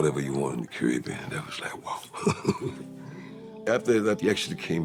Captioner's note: laughs